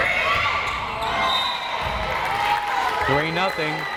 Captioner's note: whistle blares